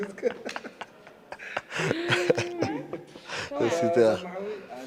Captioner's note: laughs